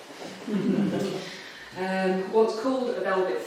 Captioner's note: audience chuckling